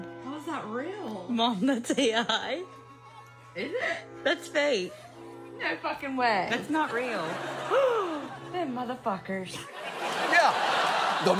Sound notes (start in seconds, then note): 7.7 gasps; 9.6 audience laughs